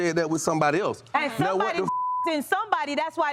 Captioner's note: beep